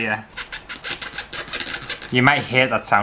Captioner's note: squeak